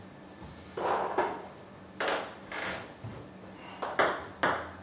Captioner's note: balls ping pong hitting continues